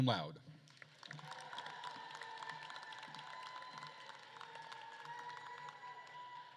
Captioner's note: attendees applauding and cheering